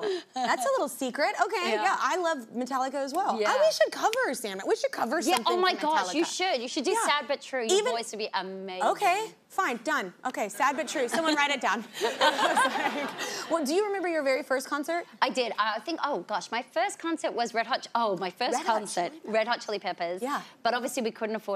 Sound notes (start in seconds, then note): 9.8 laughs; 12.0 audience laughing; 12.0 laughs